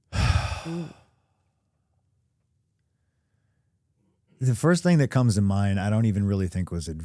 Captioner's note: sighs